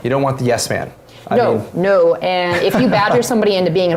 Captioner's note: laugh